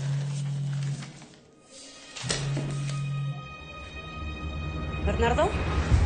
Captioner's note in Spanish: Vibra un teléfono